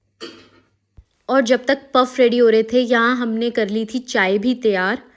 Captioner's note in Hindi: गला साफ़ करने की आवाज़